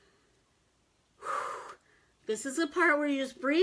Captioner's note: exhales heavily